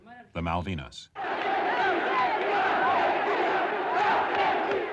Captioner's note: crowd cheering